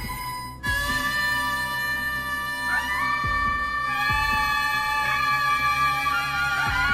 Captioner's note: someone's scream or sob?